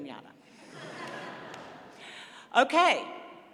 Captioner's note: laughter